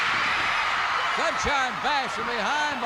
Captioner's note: crowd cheers